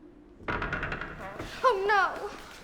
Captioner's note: door creaks